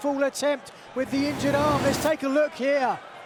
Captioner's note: whooshing sound plays